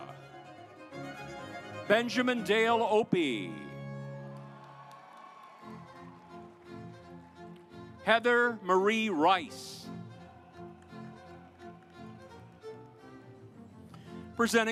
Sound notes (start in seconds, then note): 0.5 stately music; 3.9 audience applauds; 6.0 stately music; 11.0 stately music